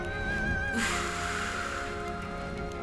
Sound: breathing

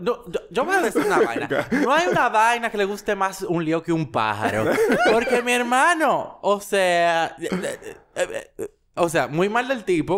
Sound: laughs; babbles, laughs

